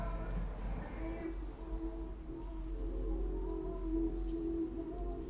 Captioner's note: shop radio plays through tinny speakers